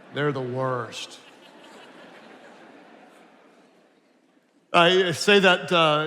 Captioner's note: attendees laughing